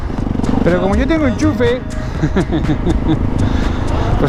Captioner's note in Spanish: risas